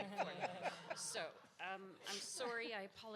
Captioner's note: audience laughs